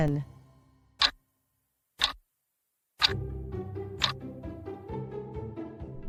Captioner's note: FX - Clock Tick